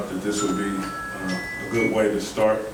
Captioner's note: chiming